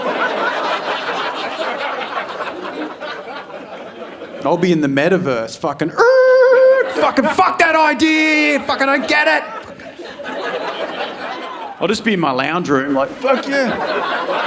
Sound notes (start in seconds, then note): 0.0 audience laughing; 6.2 imitating tires screeching; 14.2 audience laughing